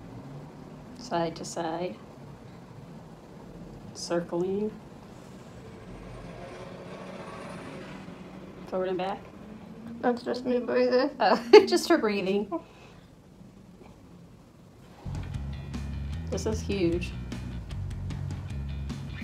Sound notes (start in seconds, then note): 10.9 laughing